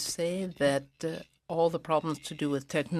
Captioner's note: speaking in french